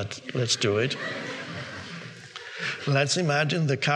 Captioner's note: audience laughing